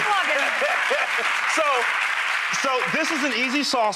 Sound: audience applause

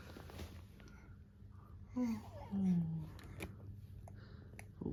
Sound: yawn

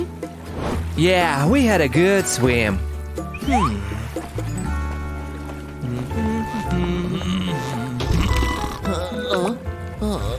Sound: snoring

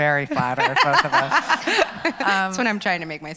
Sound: laughs

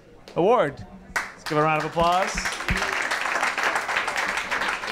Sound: applause

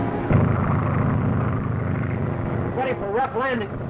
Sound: engines droning

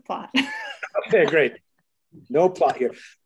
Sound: laughs

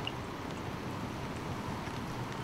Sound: raining; wind gushing

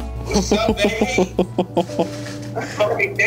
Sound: slow hip hop music; laughing

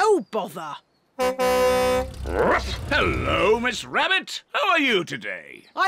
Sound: honks horn

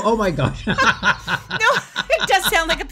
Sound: both laughs

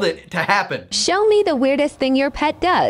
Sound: Robotic voice

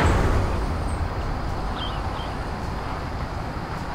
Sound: car whooshing

